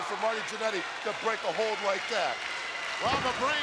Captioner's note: audience applauding